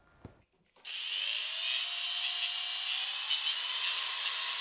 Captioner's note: machine whirring